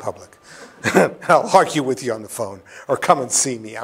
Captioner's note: laughs